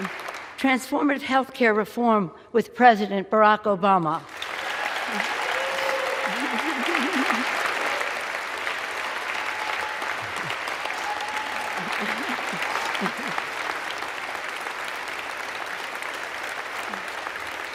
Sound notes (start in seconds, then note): 4.2 applause